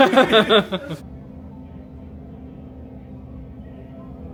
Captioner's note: both laughing